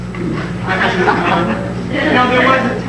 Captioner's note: audience laughing; man speaks faintly